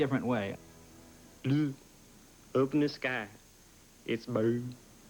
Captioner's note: hick accent